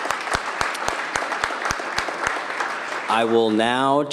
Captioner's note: applause